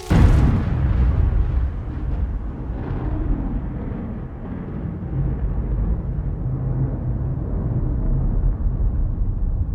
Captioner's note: thunder clap